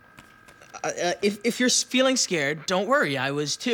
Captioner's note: stammers